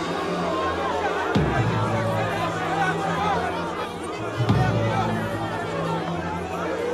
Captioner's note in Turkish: Kalabalık bağrışma sesleri